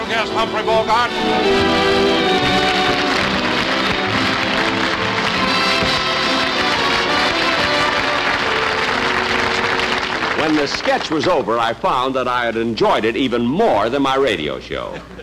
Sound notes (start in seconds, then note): 1.3 audience Applauding